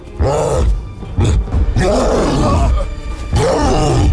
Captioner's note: men whimper; roaring